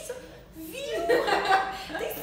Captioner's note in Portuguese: risos